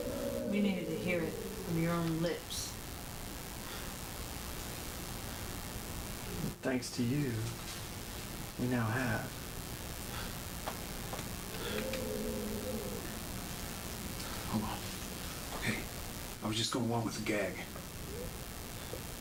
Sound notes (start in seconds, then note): 11.4 heavy breathing